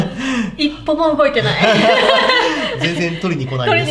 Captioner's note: laughs